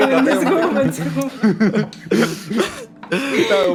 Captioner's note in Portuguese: Todos riem